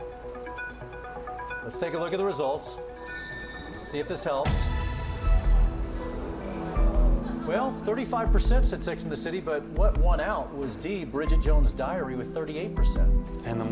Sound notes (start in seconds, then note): 0.0 percussive music; 5.2 audience groans